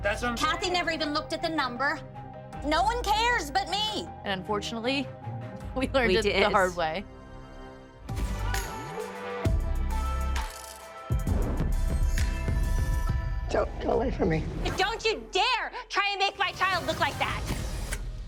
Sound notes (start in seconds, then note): 8.0 upbeat music playing; 9.3 camera shutters clicking